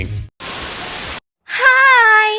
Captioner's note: Static